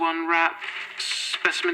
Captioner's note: rustle of packaging